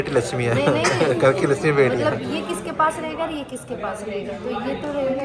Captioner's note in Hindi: हंसी